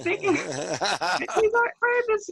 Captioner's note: group laughter